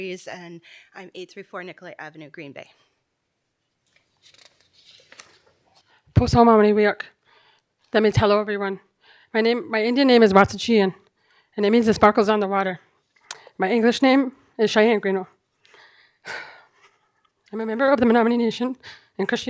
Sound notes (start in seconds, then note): 8.3 speaking foreign language